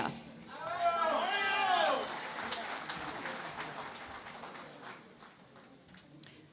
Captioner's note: cheering and Applause